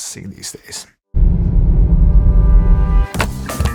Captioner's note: car rumbles; lively upbeat music